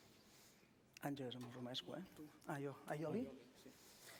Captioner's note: non-english speech